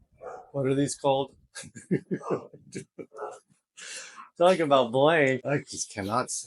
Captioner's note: laughing